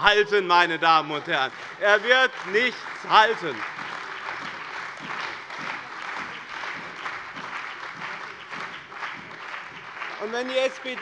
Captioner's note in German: Beifall bei dem BÜNDNIS 90/DIE GRÜNEN und der CDU